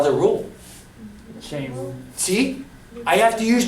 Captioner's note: voiceover